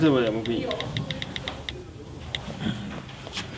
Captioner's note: rapid clicking sound from the mobile